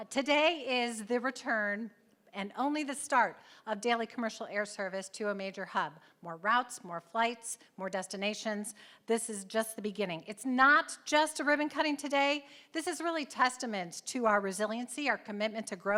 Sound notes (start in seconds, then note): none